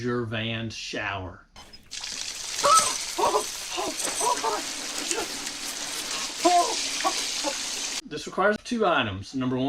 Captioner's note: cries of discomfort due to unexpected icy cold water